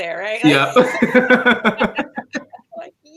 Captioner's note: laughter